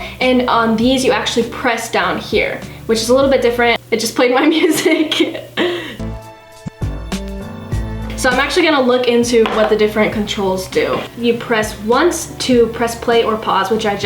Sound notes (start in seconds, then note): 4.4 laughs; 6.0 hip-hop music